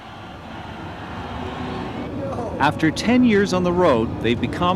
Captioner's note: cheers